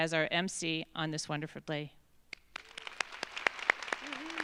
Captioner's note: claps; audience applauds